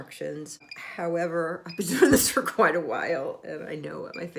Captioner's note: laughing